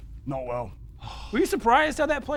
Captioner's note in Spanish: Suspiro